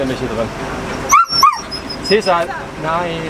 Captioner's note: Caesar is howling